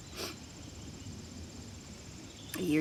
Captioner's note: Benji sniffling